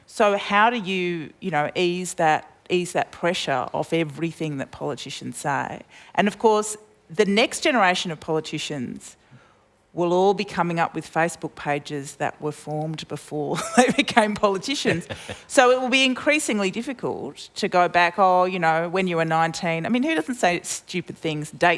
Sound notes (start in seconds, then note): 13.6 laughs